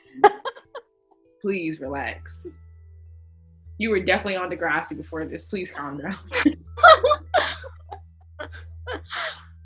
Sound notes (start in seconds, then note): 0.1 laughing; 6.7 all laughing